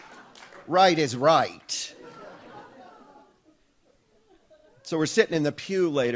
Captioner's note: audience laughs